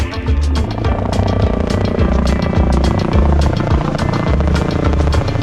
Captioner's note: helicopter whirring